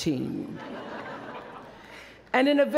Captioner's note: laughter